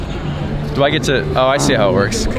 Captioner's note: man speaking in foreign language